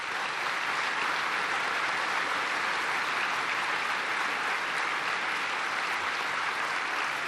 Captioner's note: applause